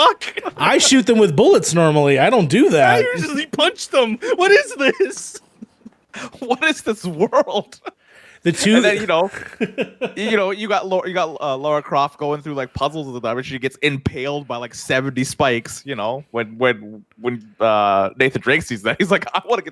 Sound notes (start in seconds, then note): 0.0 laughs; 8.7 chuckles